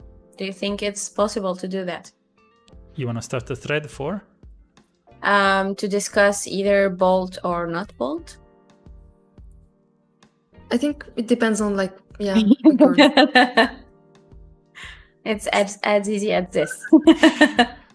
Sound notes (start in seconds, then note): 12.3 laughs; 16.6 laughs